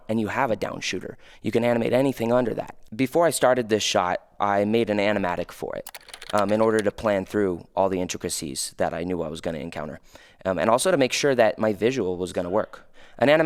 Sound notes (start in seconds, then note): 5.8 computer keys clicking